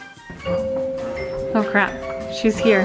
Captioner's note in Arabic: رنين جرس الباب